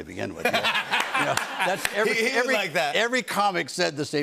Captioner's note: laughter